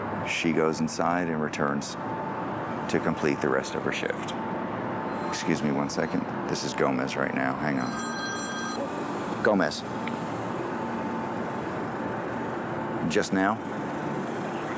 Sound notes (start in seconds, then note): 7.7 phone ringing